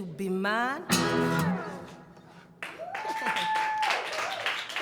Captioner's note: applause